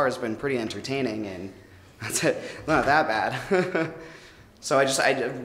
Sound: chuckles

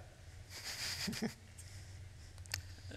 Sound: chuckles

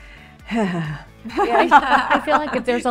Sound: Laura sighs; Laura and Jessica laugh

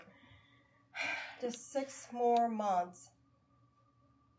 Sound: sighing

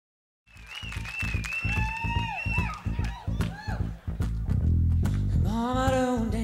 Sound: crowd cheering; bass playing

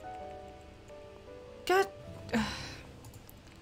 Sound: sighs

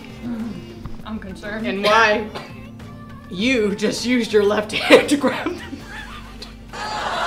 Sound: laughing; laughter

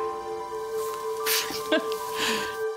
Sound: chuckles

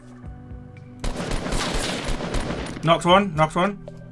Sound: gun firing

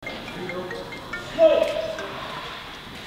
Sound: phone ringing

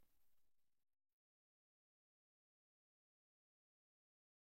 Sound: silence

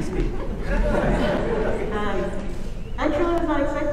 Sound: audience laughing

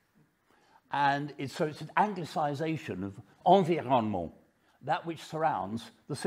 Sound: speaks french

